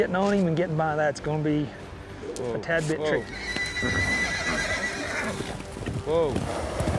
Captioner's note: horse whinnies